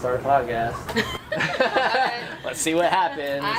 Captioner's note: laughing